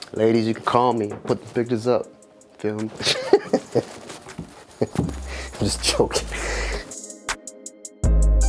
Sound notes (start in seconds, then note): 3.0 laughs